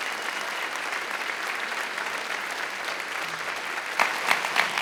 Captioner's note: attendees applauding